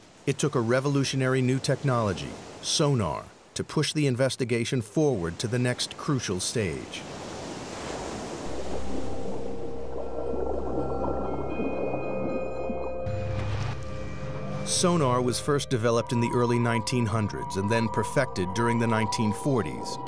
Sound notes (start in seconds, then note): 7.1 waves crashing